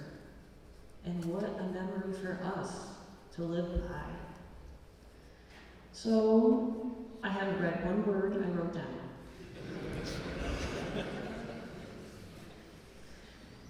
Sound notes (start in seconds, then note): 9.4 laughter